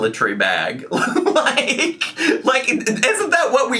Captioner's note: laughing